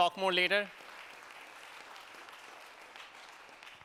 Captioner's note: applause